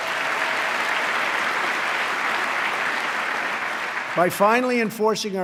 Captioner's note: applause